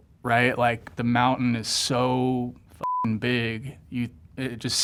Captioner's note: beep